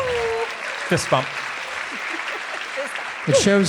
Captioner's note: audience applauding